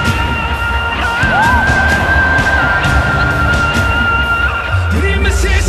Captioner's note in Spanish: Ovación